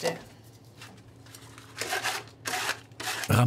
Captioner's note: scratching noises